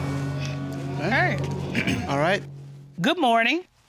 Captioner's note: clears throat